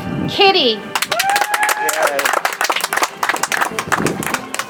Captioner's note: audience applauds